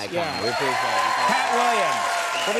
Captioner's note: audience cheering